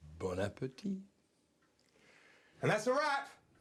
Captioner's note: guy speaking in foreign language